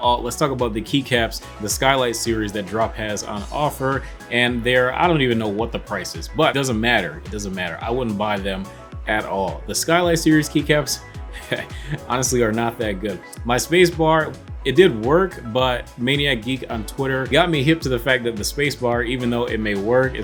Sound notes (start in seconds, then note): 11.3 chuckles